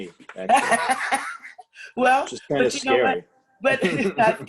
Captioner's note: laughter